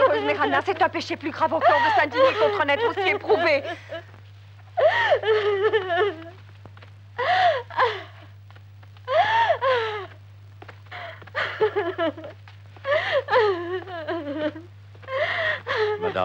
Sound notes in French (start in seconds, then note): 4.7 mme marchetti pleurant